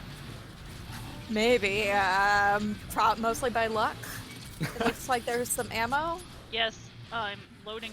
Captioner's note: laughs